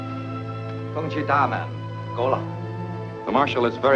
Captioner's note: speaks foreign language